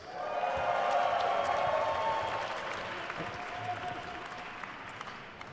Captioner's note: attendees cheering and applauding